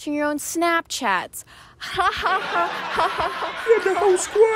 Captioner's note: forced laughter to hide the pain